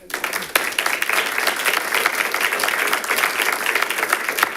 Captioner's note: audience applauding